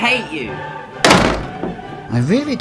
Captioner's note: door slams